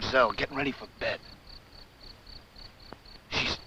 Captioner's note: crickets chirping